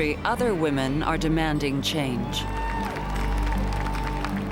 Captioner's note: applause and cheering